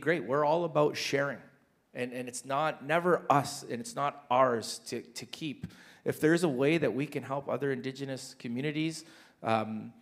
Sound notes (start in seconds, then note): none